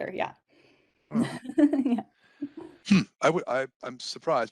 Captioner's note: laughing